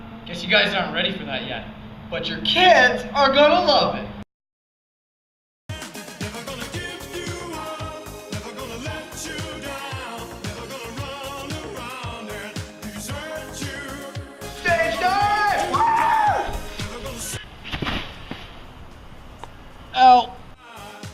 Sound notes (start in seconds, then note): 17.6 thud